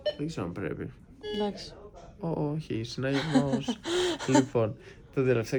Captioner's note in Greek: γέλια